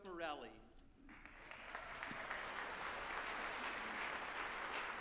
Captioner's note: group applauding